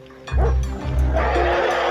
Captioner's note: dog barks; man shouts; elephant roars